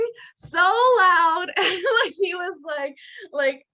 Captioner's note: giggling